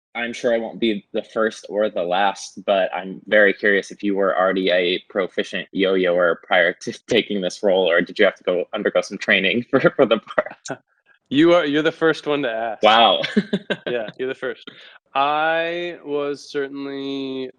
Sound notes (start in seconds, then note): 9.6 laughing; 13.1 interviewer chuckling